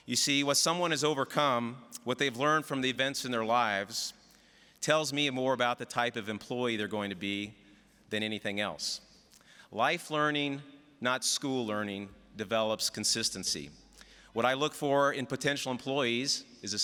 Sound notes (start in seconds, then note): none